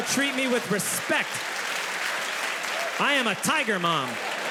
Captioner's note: audience applauding; audience laughs; audience laughs; upbeat music